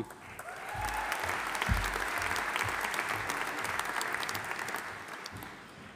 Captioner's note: audience applauding; audience cheering